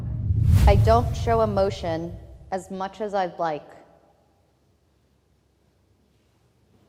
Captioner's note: whoosh air